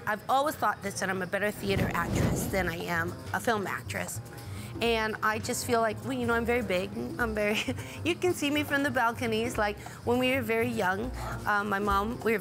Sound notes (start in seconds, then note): none